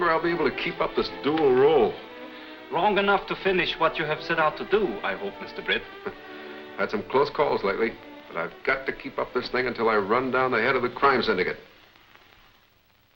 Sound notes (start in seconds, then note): 6.2 laughs